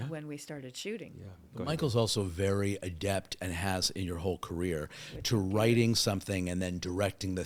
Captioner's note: none